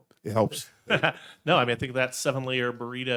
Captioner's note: laughing